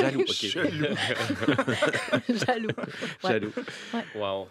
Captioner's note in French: rires